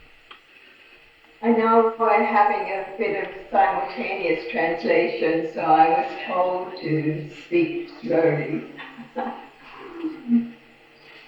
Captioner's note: laughs